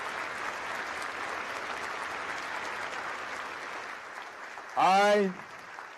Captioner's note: applause